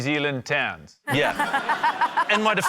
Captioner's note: laughter